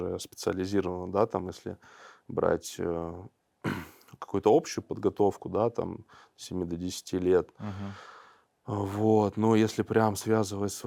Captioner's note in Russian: откашливается